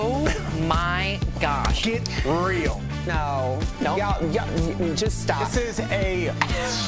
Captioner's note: laughter